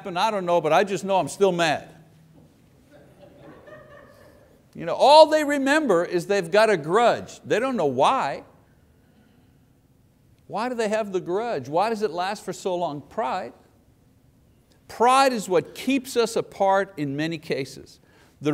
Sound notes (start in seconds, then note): 2.8 people laugh